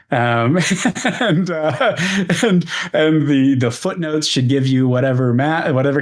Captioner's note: laughs